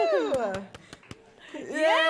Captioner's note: applause